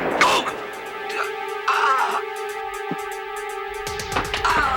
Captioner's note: gunshot; gasps